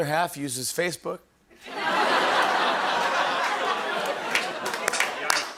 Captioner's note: laughter, applause, and ohhs